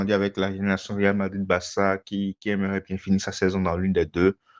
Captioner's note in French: raclement de gorge